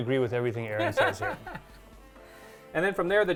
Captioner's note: chuckling